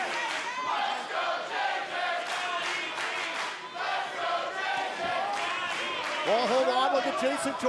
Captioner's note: crowd cheering